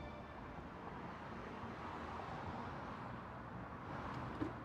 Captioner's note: wheelbarrow wheels moving